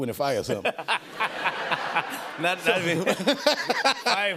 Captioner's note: laughter